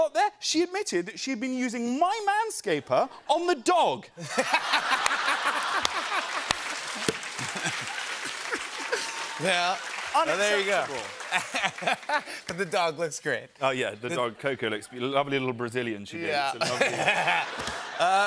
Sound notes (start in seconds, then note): 4.8 applause